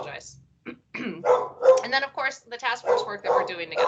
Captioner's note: clears throat